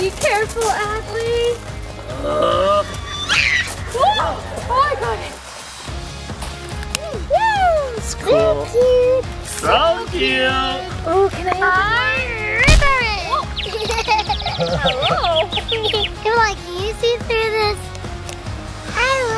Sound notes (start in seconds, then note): 2.6 screams; 6.0 upbeat music; 12.4 birds chirping; 15.6 laughing